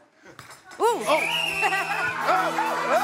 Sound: whistle blowing; laughs; clamoring

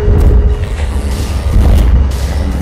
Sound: whoosh

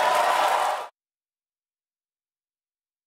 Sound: audience cheers and applauds

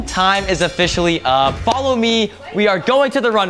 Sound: bell ringing

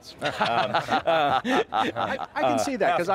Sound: people laughing

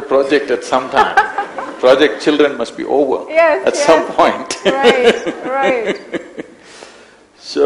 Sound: both laugh

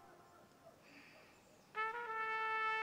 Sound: sighs

